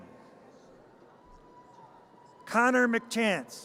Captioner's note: audience cheers